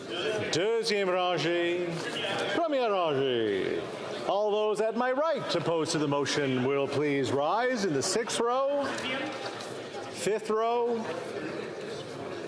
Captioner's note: speaking French